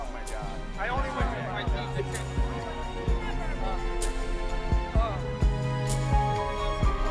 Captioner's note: people chattering; upbeat music